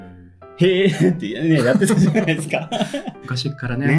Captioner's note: laughs